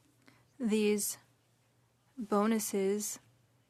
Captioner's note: speaking French